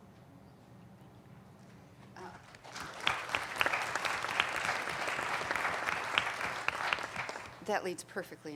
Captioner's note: applauding